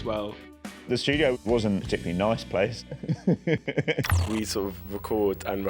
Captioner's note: laughs